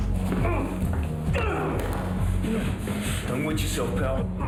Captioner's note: man grunts